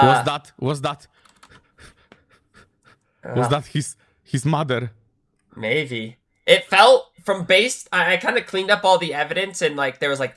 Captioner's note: panting